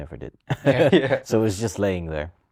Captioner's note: laughter